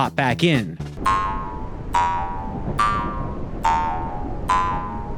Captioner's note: spring bouncing